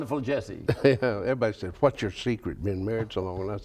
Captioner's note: laughs